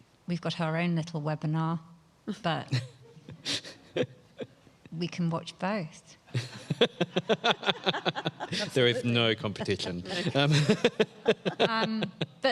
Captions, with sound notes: We've got our own little webinar that we can watch both. (laughs) - There's no competition. (panelists laughs)